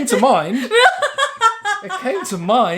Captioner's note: laughing